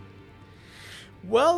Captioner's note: sharp intake of breath